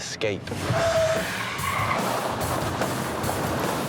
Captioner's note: tires screech